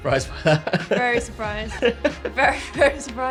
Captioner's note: laugh